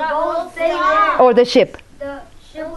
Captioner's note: shout answers